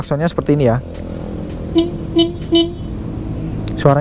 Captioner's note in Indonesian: klakson